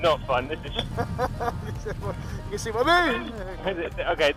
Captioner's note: laughs